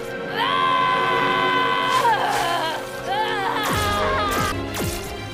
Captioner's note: furious Shouting